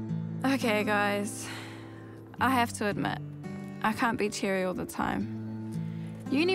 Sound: light guitar music; sighs

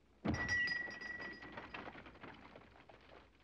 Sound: bell ringing

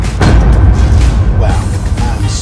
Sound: loud bangs

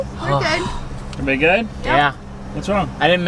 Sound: sighs

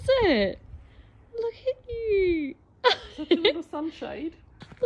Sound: laughs

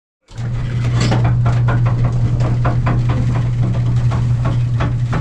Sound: observatory roof clunking open

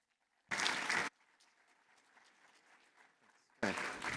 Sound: applause

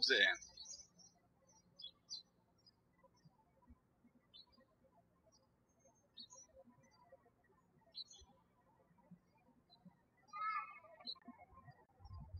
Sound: birds chirping

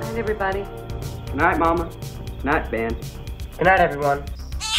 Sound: catbird screaming

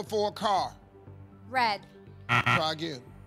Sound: buzzer

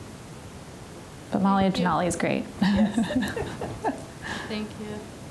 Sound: chuckling

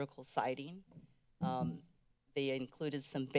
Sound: mic thuds

